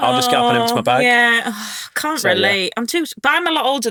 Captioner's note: sighs